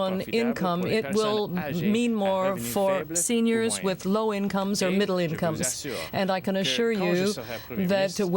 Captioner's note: speaking french